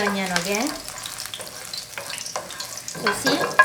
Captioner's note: oil popping